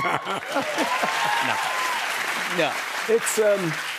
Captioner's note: cheers and applause; laughs